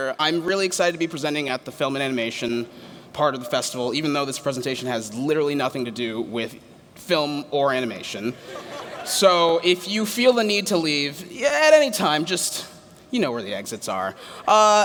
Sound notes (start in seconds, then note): 8.4 laughter